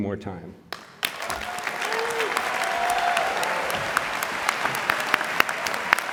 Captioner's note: applause, cheering